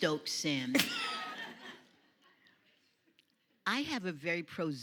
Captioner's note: audience laughs